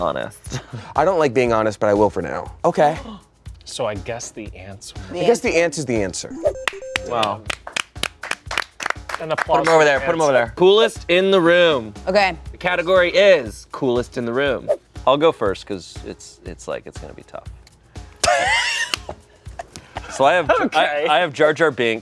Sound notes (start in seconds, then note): 8.2 everyone applauds; 18.2 laughs